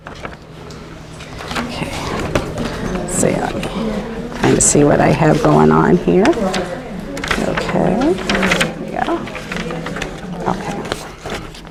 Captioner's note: chatter